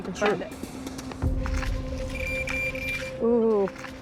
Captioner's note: pinpointer beeping